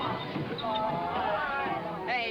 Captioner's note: kids chattering